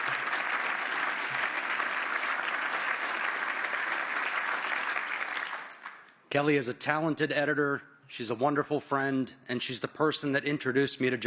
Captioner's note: applause